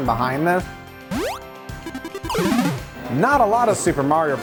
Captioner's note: video game sound effects